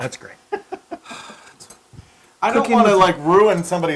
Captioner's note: laugh